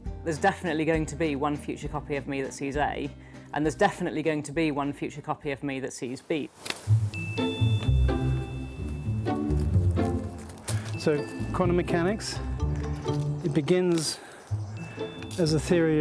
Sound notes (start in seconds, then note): 6.5 shears snipping; 6.8 playful music